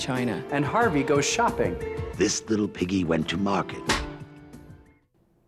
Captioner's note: slate clap